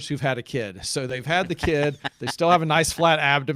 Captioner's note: laughing